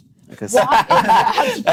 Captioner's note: laughing